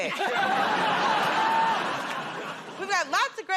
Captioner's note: laughter